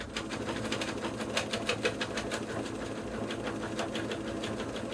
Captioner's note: sewing machine whirring